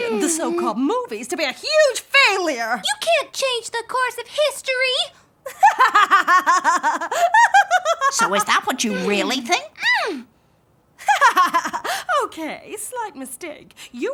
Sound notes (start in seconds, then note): 5.5 queen laughing; 11.0 laughs